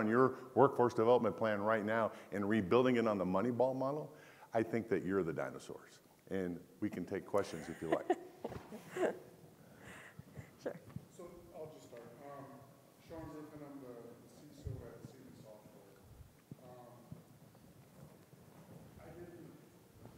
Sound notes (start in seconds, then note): 7.5 laughs